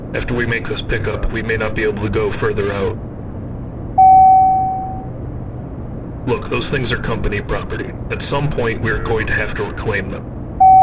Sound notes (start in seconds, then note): 3.9 ding!